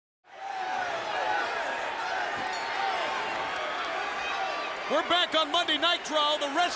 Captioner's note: crowd cheering